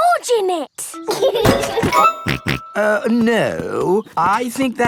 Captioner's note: laughs and snorts